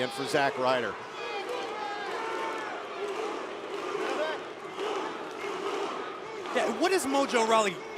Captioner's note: crowd cheering